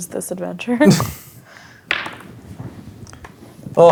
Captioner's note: dice rolling